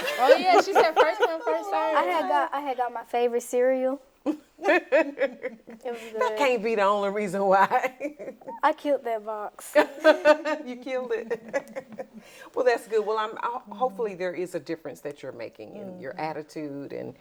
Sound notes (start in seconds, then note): 9.6 laughs